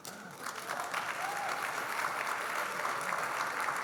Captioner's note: audience clapping